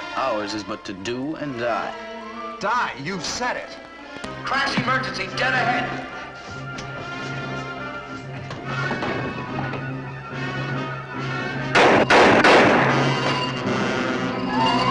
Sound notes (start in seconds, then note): 4.4 loudspeaker; 6.9 dramatic music; 11.7 gunshots firing